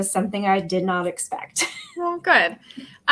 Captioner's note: laughter